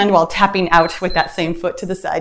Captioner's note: timer beeps